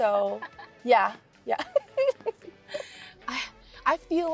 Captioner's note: laughs